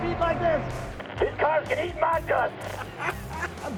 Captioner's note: over the walkie-talkie; laughter